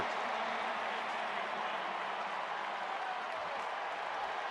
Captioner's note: crowd cheering